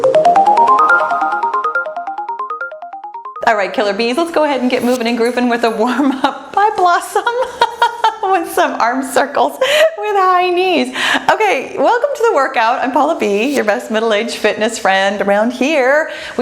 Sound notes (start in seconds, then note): 0.0 cheerful music; 7.4 laughs